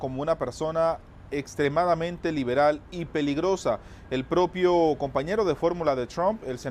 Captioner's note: HABLA EN INGLéS